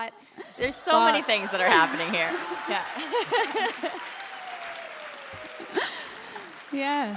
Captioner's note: applause / Laughter